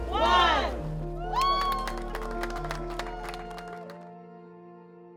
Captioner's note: applause